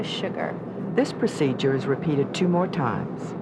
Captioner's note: voiceover